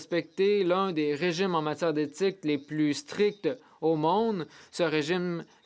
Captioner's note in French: voix de l'interprète